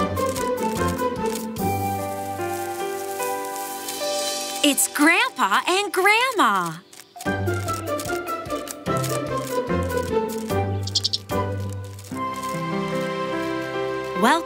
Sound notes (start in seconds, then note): 2.0 grass rustling; 7.1 playful music; 10.7 squirrel chirping